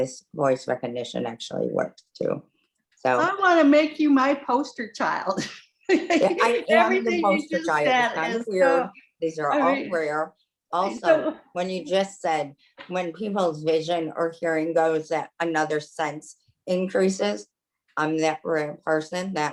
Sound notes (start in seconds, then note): 5.8 laughter